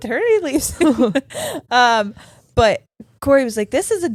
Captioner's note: giggling